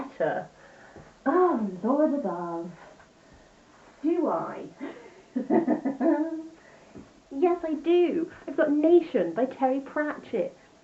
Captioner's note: laughs